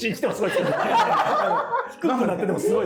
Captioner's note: laughing